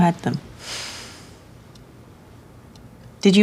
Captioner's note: sighs